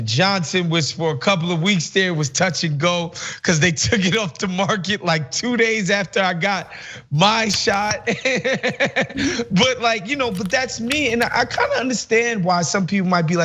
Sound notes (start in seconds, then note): 8.8 laugh